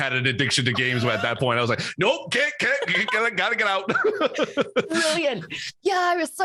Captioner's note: laughs